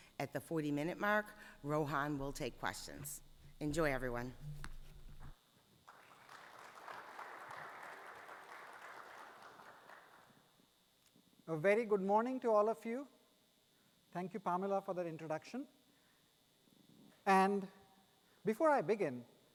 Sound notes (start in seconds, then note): 5.8 attendees applauding